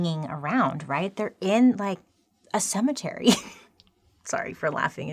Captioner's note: laughing